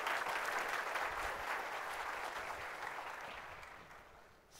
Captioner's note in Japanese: 拍手